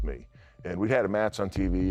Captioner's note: none